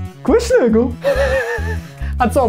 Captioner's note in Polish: Śmiech Antka